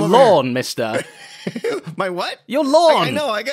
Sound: laughs

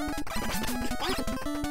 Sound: chipmunked

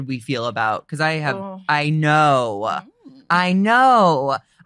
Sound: laughs

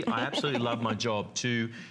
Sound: laughter

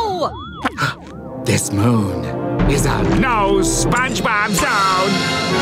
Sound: gasps

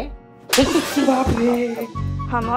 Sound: slaps

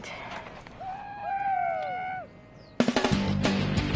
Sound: Brett and Eric shouting; rock music

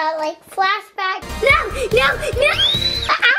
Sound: screams; squeals

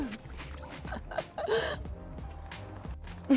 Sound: laughing

